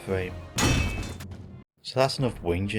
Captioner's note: bonk